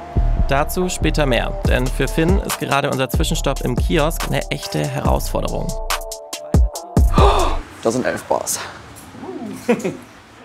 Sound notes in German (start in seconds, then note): 5.8 Dynamische Musik; 7.1 Erschrockener Laut; 9.4 Lachen